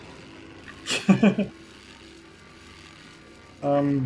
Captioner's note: laughs